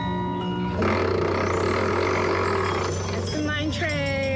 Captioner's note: music chiming; creaking